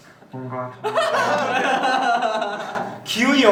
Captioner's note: burst into laughing